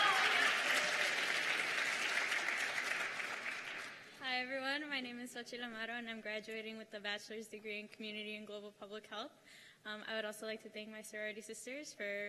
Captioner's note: cheers and applause